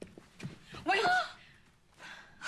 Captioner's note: gasps